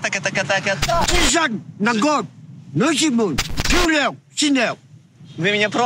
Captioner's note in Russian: Говорит на китайском